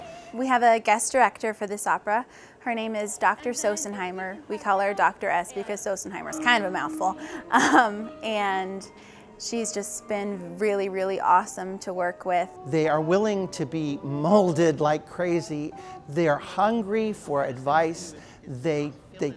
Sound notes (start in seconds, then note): 7.0 laughs